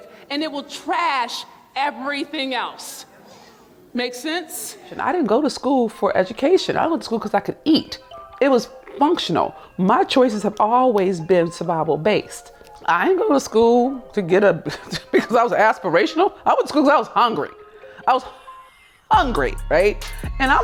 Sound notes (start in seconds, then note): 7.2 soft music; 14.6 chuckles